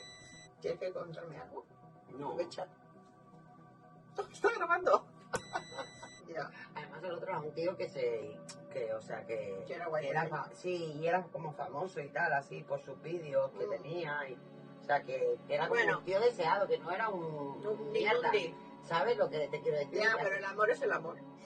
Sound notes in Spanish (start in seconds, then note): 5.3 sonido: risa; 5.3 sonido: piiiii